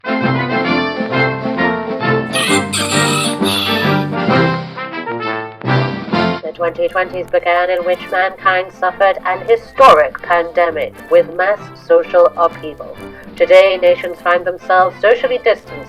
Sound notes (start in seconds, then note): 0.0 jaunty upbeat music; 2.3 rooster crows; 3.6 jaunty upbeat music